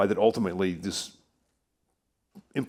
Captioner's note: none